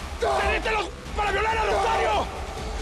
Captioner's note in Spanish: Grito